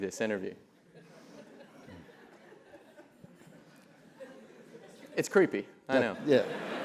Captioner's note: laugh; laugh